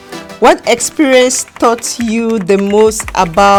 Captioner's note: keys typing